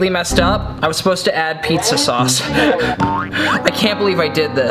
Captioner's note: chuckles